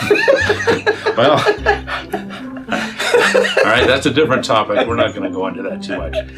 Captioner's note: laughing; laughs